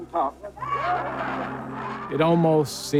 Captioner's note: audience cheering